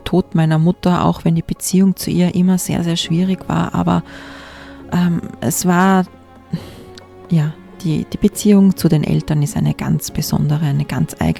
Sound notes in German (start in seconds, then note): 6.5 schnauben